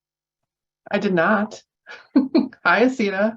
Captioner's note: chuckles